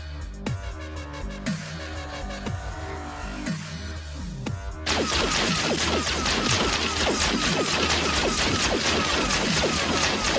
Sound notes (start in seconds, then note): 4.8 guns blasting